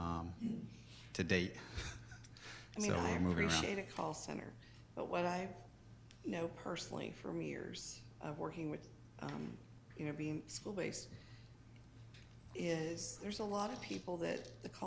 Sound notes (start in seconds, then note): 1.7 laughs